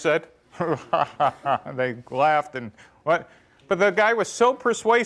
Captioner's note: laughs